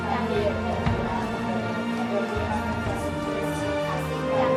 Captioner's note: children murmuring